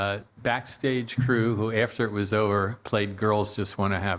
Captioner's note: laughing